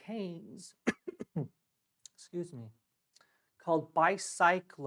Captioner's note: coughs